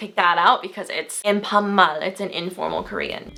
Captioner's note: foreign language